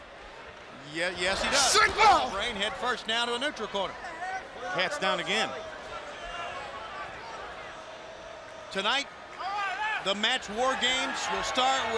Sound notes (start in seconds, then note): 6.2 crowd chatter